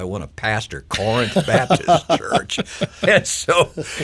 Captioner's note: person laughing